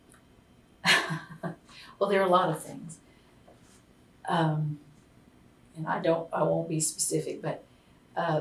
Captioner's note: laughs